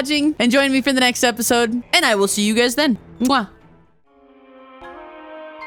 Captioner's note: kiss